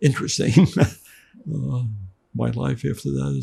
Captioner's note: laughing